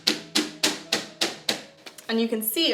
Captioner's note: bangs